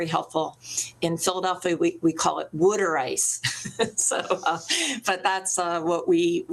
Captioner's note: laughs